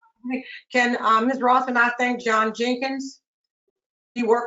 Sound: woman's Voice

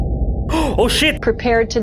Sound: gasp

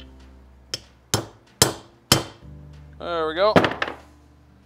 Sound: hammer tapping

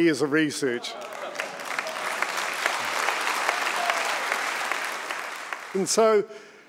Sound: audience clapping

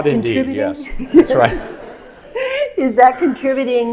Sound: audience laughing

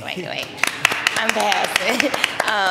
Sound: clapping

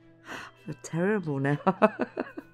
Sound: giggling

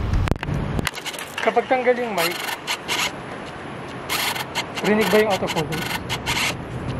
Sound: camera noise; autofocus motor sound

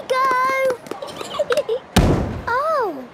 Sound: giggling, thudding

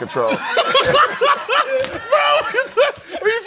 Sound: laughter

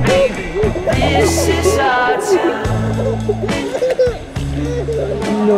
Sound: giggling uncontrollably

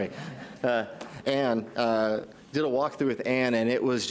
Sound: audience laughs

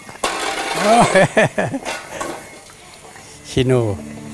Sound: laughing

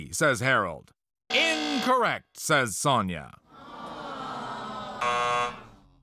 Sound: low buzzer; audience sighs; buzzer

